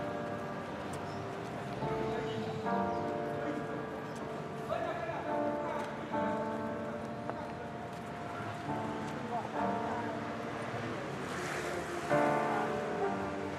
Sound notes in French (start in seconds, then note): none